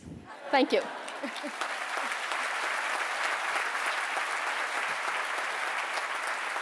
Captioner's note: applause